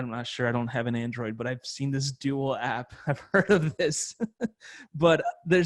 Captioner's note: laughs